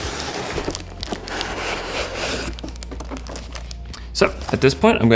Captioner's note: box rustling